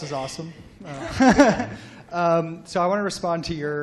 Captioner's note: laughter